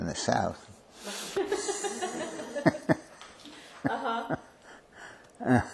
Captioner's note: laughter